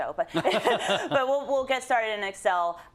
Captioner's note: laugh